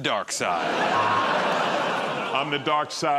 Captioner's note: laughter